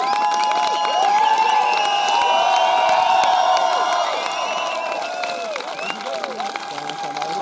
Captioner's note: applause and whistling